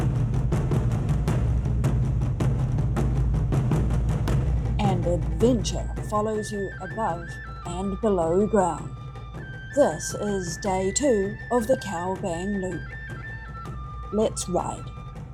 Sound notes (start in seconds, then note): 4.8 jeep engine and dramatic music